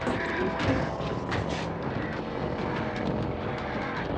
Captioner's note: ghouls groaning, wheezing